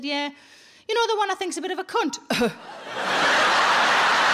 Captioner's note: audience laughing; coughs